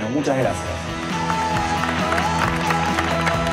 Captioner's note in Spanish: Aplausos